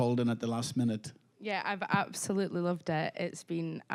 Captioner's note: with Scottish accent